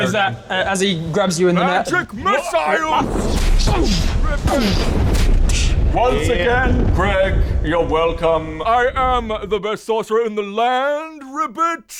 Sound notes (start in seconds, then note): 2.4 boom